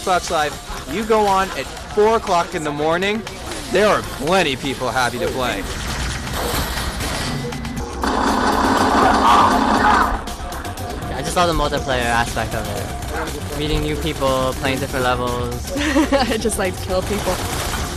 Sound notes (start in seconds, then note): 6.1 lasers firing; 8.7 gunfire and shouting